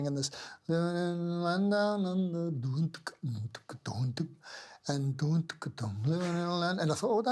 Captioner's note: sings; mimics percussive sound